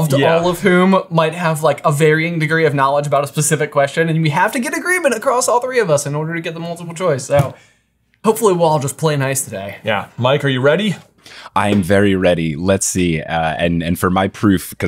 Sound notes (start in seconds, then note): 7.9 fist pounding